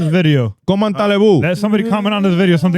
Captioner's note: speaking In Foreign Language